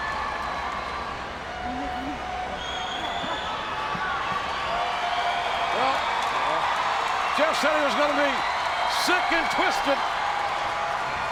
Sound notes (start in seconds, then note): 0.8 audience cheering